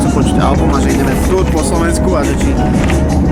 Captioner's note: radio playing